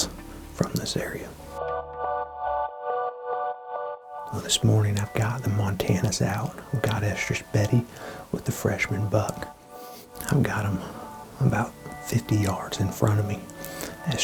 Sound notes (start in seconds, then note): 2.5 whispering